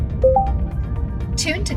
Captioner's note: VR System beeps